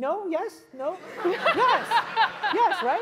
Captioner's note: laugh